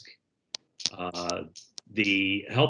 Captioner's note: headphones tapping on zipper